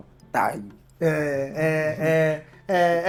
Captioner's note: laughs